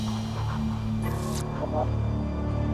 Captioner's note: electric zap